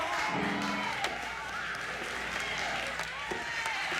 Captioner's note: vocalizing; cheering